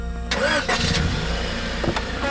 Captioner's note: engine starts